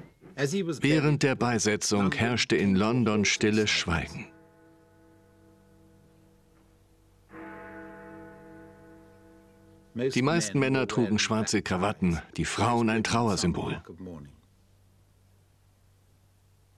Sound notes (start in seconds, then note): 3.7 bell ringing